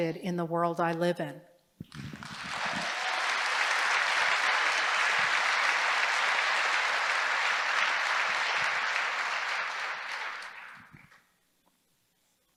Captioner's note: applause